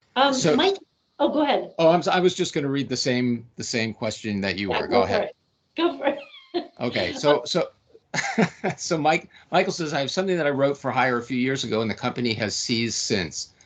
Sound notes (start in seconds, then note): 6.8 laughing